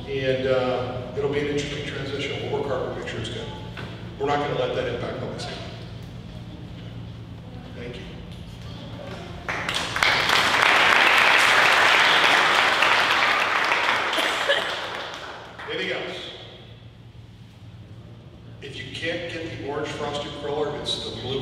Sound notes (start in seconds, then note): 9.4 audience applauding